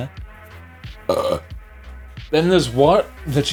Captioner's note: burps